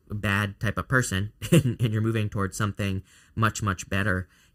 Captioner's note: chuckles